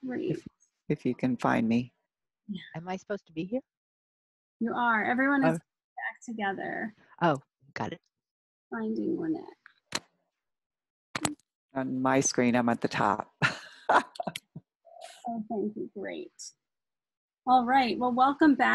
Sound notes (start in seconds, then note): 13.4 laughs